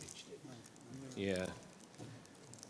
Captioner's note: speaking faintly